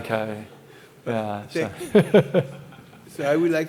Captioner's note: laughs